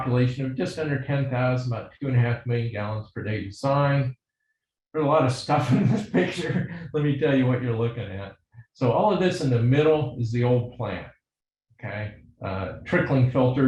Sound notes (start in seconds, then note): 5.6 laughs